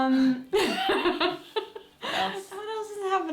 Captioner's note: laughter